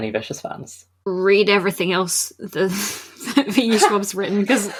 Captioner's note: laughing